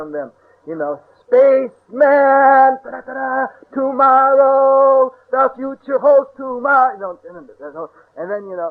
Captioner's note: singing; imitates music sounds